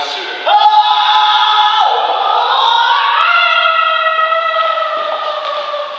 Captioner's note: battlcry turns into shout of fear